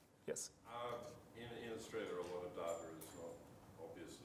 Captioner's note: man speaks softly